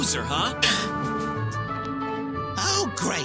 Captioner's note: laughs